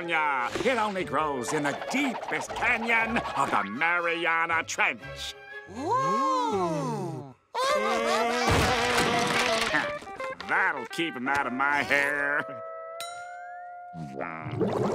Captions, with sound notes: It only grows in the deepest canyon of the Marianna Trench. Ooh. [laughing] That'll keep ‘em outta my hair.